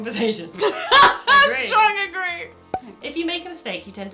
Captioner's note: laughs